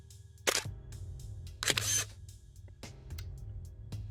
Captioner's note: camera shutter; camera snap; camera shutter